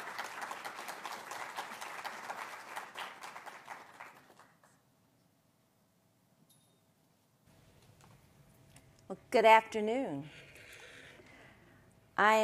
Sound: applause

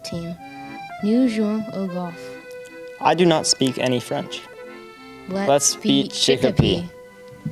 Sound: speaking French

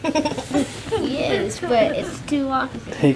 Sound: laughter

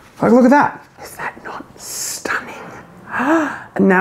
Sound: whispers

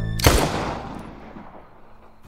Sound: gun cocks

